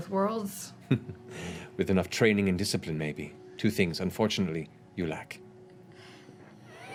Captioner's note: chuckles